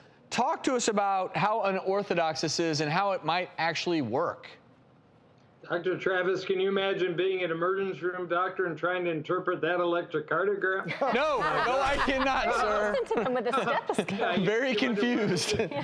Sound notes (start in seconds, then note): 10.9 laughing